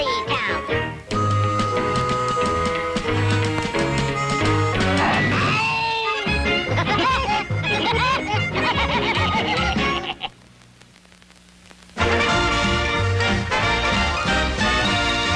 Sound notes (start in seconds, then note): 3.1 somber music; 8.5 Woody and Sugarfoot laugh cheerfully